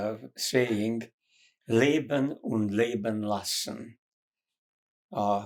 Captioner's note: german